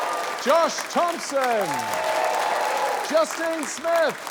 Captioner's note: cheering, applause